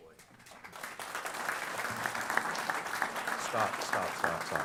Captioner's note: applause